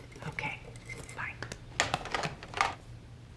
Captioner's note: hangs up telephone